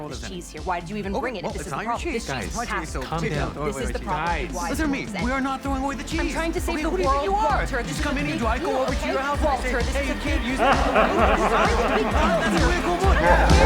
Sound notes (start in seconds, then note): 8.2 laughs